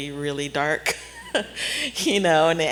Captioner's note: laughs